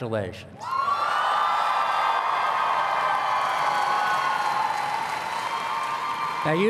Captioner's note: applause and Cheers